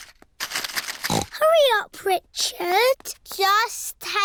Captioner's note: snorts